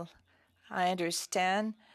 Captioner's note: speaking French